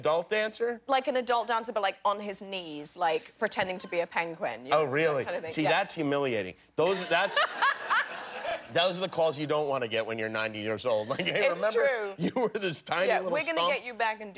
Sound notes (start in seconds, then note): 11.0 laughter